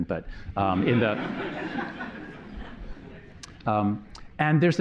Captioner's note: laughter